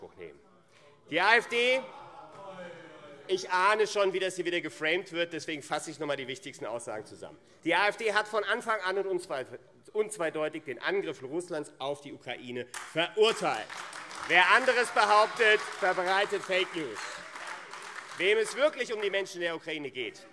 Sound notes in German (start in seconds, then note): 15.2 Beifall AfD - Widerspruch SPD und BÜNDNIS 90/DIE GRÜNEN - Zurufe